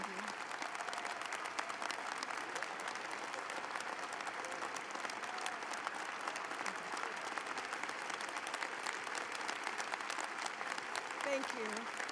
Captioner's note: applause